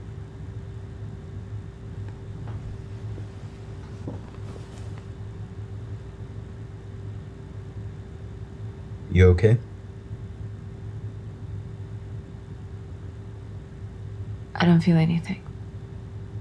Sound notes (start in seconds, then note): 3.5 air conditioner humming continues